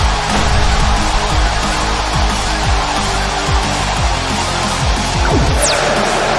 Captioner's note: crowd cheering; heavy rock music